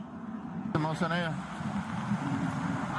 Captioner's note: officer speaking Spanish